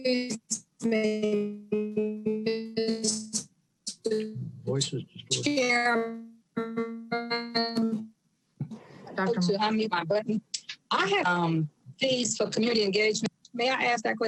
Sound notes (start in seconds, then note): 4.0 audio cutting out